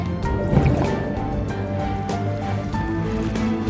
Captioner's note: liquid gurgling